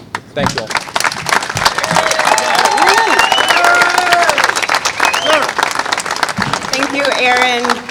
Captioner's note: applause